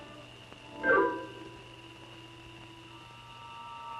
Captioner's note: insects chirping